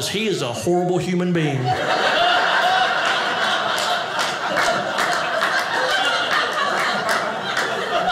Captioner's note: audience laughing